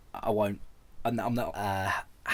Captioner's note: he stammers